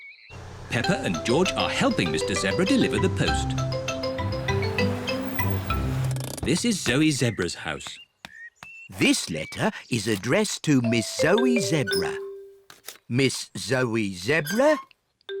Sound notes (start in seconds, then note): none